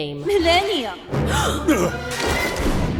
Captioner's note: gasp